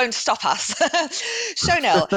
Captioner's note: chuckles